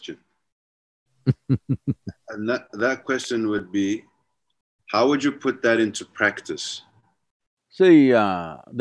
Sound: Sadhguru laughs

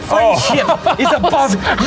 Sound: laughs

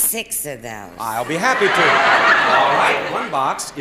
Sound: audience laughing

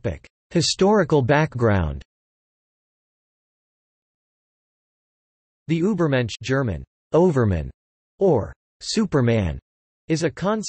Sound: German

